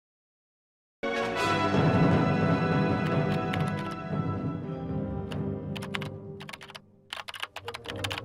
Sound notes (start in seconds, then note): 1.0 exciting music; 1.9 computer keys clicking